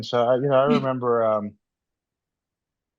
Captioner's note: laughs